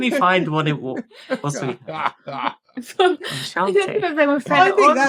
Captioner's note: laughing